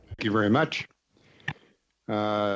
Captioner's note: speaking French